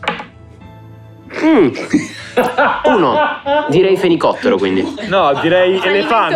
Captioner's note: laughs